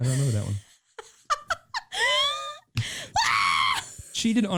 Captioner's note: laughing